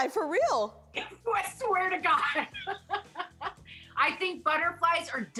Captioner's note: laughs